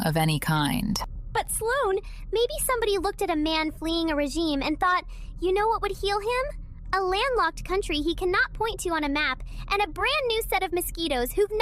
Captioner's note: excited